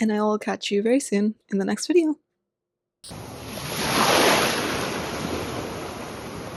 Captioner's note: sound of wave on a shore